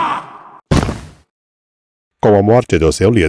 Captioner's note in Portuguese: grito